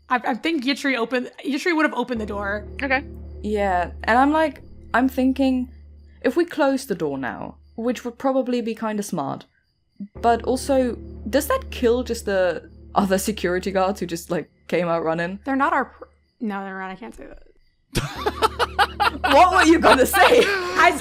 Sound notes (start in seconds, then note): 17.9 laughing; 17.9 laughs